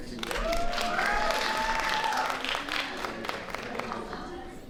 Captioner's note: applause